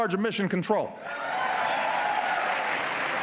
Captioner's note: applause